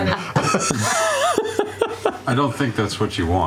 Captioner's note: laughter